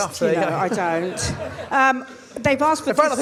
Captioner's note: crowd laughs